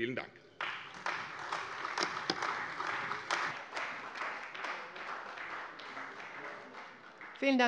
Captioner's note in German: Beifall bei der CDU und dem BÜNDNIS 90/DIE GRÜNEN